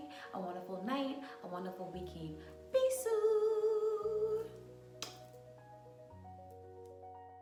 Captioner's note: kiss